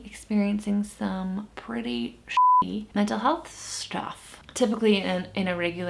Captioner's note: beep